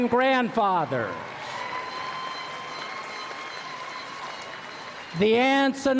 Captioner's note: applause